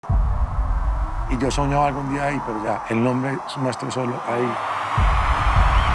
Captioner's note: speaking Spanish